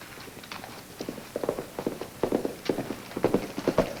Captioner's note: hooves clomp